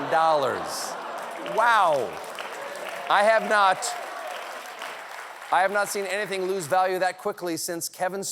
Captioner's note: laughter